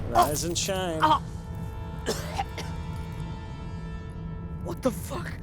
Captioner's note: banging; Dom chokes and coughs